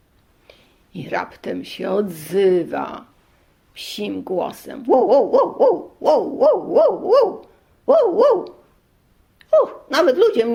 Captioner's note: dog barking